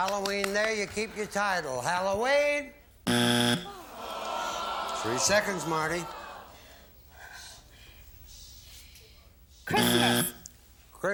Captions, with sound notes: - Halloween there, you keep your title. Halloween? (buzzer) Three seconds, Marti. - (buzzer) Christmas.